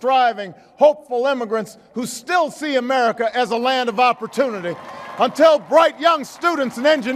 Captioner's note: applause